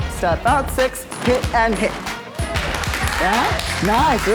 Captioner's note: onlookers applauding